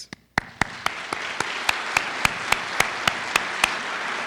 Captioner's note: audience applauding